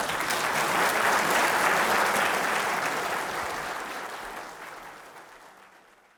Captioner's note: applause